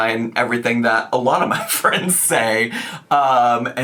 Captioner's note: laughs